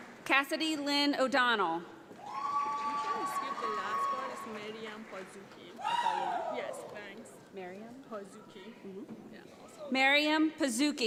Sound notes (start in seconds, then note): 2.2 audience applauds